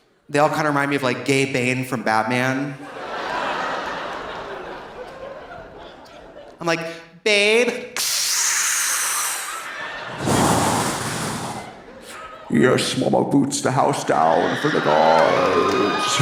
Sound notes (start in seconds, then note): 2.8 audience laughing; 7.9 imitates CPAP machine whooshing; 15.9 audience applauding; 15.9 audience laughing